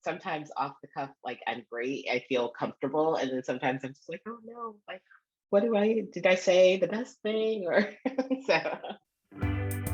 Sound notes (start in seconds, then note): 7.8 laughter; 9.3 upbeat music